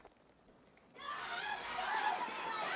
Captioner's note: indistinct screaming